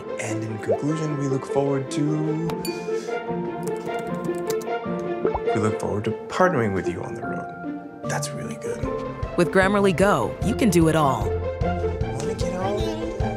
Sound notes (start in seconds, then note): 2.6 bell dings